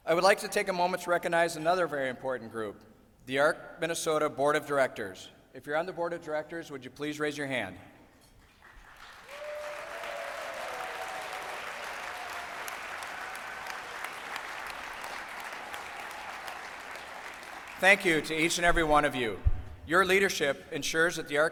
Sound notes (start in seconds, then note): 12.8 applause